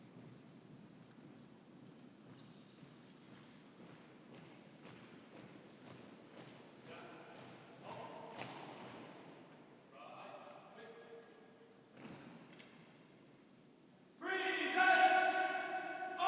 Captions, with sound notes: (feet thudding) Staff halt. Right face. (feet stomping) Present arms!